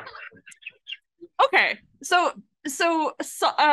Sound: AUDIENCE laughs

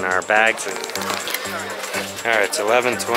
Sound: camera rustles

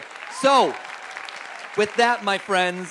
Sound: audience applauds

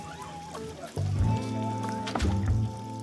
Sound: door closes

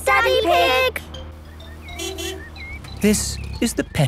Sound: honking

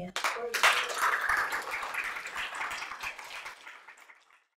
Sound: applause

